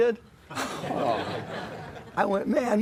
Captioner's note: laughter